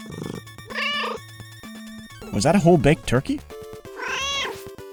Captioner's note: meow